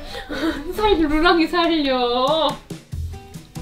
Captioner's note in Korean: 웃음